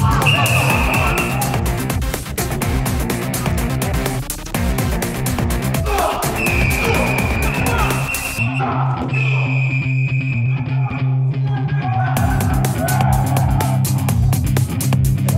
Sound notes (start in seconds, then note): 0.1 whistle shrills; 2.1 upbeat rock music; 5.8 player grunts; 6.2 whistle shrills; 11.6 upbeat rock music